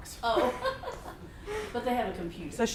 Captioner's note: laughing